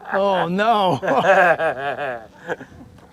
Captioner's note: laughter